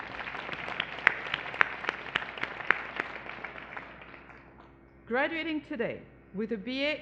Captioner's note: applause